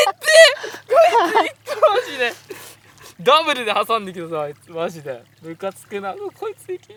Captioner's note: crying